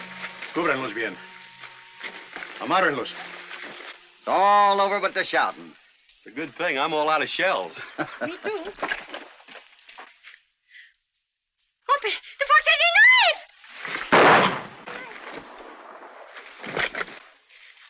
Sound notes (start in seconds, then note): 0.1 in spanish; 14.1 gunshot